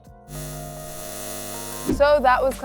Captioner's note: eyes buzzing